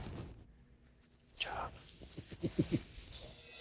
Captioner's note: chuckling; suspenseful music playing